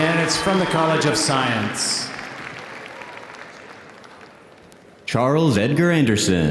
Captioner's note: audience applauding